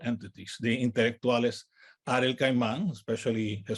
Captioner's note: speaks in native language